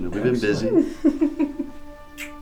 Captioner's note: soft music; Jessica giggles; lips smacking